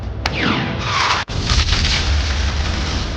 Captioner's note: boom